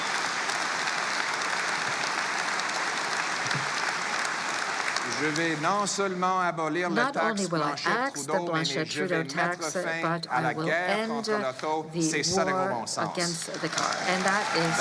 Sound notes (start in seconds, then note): 4.3 cheering and Applause